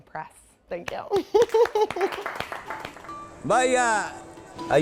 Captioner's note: learners applauding